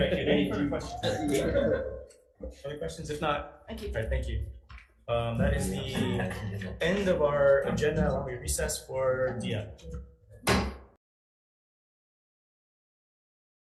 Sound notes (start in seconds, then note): 10.4 gavel bangs